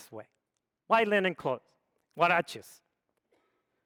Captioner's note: speaks foreign language